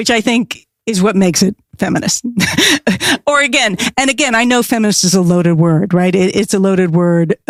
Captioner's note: hehehe